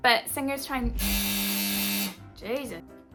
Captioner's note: obnoxious buzzer